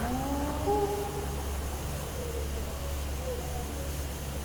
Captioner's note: animal howling